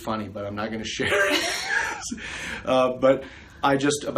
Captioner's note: laughs